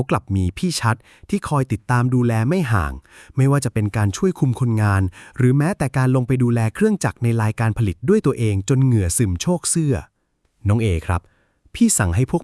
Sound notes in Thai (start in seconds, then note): none